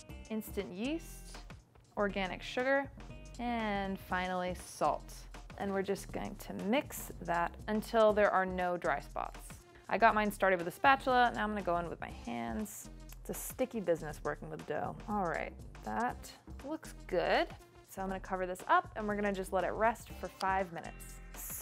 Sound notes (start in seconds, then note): none